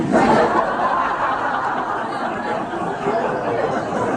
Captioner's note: audience laughs